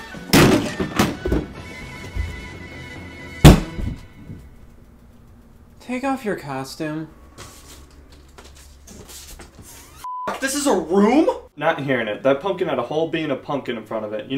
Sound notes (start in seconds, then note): 0.3 pumpkin thudding; 3.4 game thudding; 10.0 beep